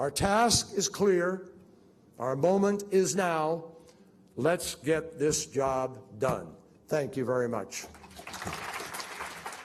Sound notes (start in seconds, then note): 7.8 applause